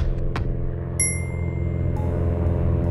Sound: aeroplane engine hums

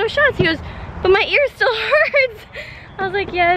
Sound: laughing

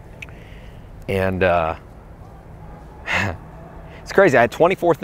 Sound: laughing

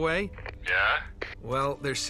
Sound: radio

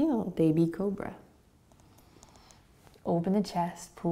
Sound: inhaling

